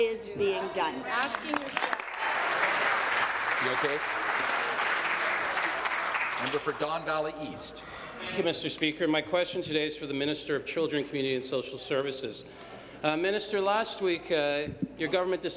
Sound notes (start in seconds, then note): 6.8 applause